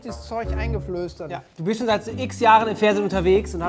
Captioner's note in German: none